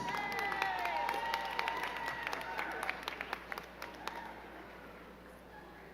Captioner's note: crowd cheering and clapping